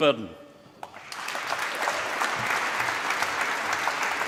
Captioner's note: applause